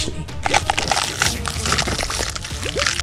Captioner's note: bubbling sounds